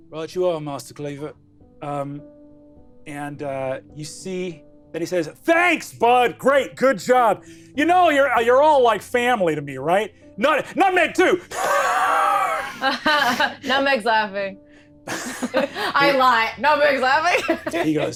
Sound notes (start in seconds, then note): 12.5 laughs